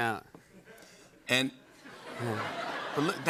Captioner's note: laughter